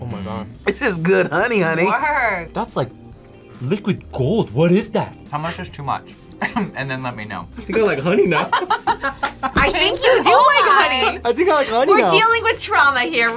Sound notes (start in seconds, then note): 7.6 both laugh; 7.6 laughs